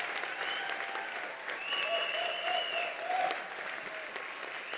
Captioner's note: attendees applauding; attendees cheering; attendee whistling